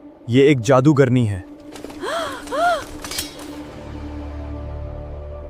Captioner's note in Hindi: अचानक ज़ोर से सांस लेने की आवाज़